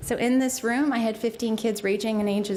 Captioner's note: none